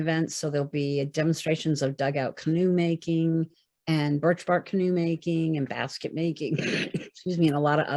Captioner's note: cough